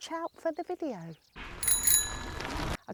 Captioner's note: bell ringing